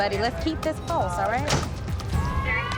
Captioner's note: sirens